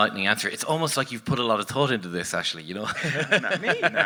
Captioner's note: laughs